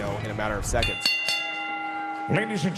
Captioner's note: bell rings